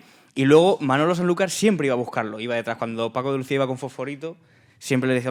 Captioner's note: speaking in Spanish